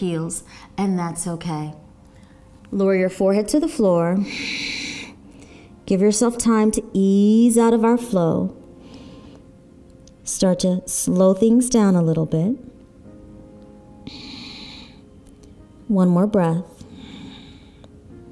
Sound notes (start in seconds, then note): 4.2 exhaling; 12.7 relaxing music and audible breathing; 18.0 relaxing music